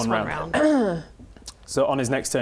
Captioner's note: clears throat